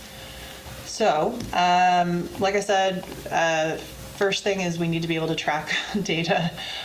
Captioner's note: laughs